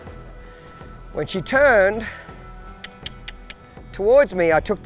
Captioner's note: clicking tongue